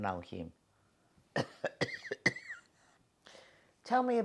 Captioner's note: coughing